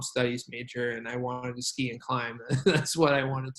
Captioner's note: laughs